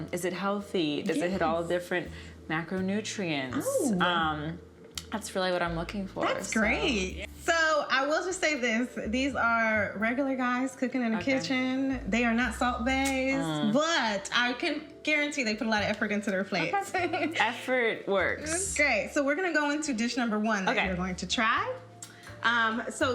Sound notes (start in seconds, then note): 17.1 chuckles